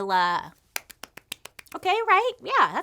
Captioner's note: claps